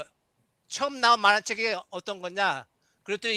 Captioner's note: non-english speech